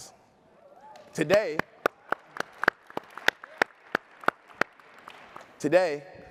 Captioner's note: applause